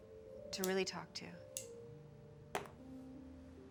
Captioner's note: none